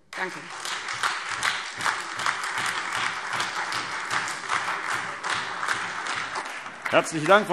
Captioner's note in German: Beifall Freie Demokraten, SPD, AfD und DIE LINKE